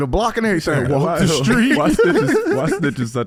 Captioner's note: laughs